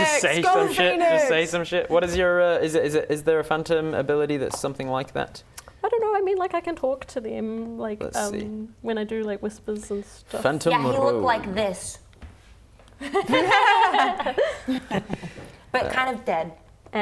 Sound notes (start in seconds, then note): 13.4 laughing